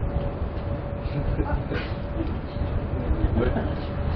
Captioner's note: Gülüyorlar